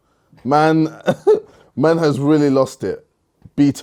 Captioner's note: laughs